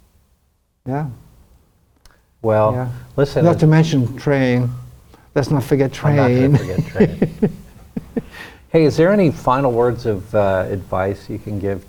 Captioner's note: laughs